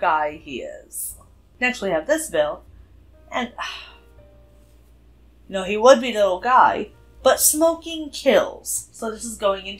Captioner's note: sigh